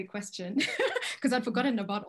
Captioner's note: chuckles